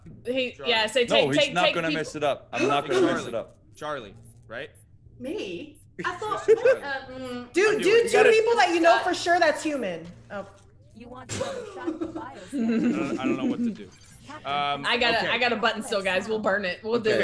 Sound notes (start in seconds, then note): 11.2 laugh